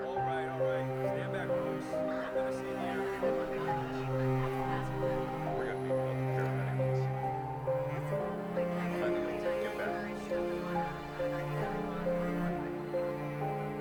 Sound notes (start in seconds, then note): 2.5 police radio chattering; 2.5 solemn music; 10.3 solemn music continues